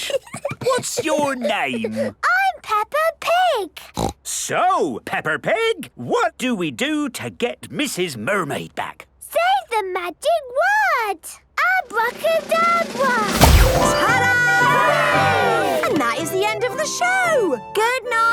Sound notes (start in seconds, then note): 0.0 Peppa giggles; 3.9 snorts